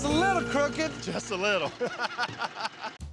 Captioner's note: laughter